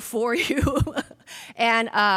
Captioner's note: laughs